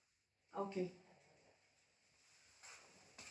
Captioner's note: none